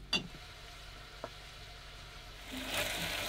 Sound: sizzling

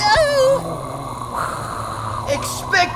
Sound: soul sucking sounds

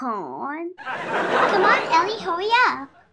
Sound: laughter

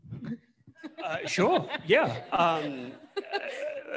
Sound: laughs

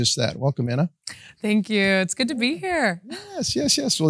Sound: chuckles

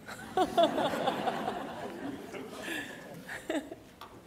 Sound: audience laughs

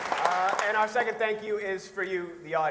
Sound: audience applauds

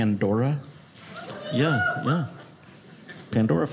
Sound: audience members cheer

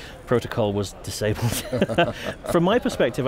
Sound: laughing

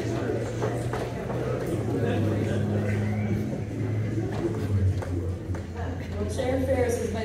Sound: background Discussion

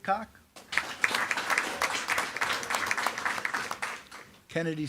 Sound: attendees clapping

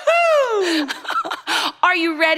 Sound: laughs

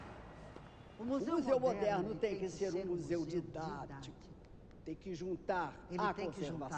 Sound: speaking in foreign language

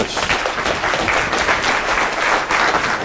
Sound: applause

